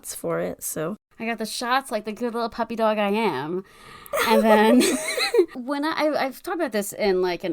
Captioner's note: laughs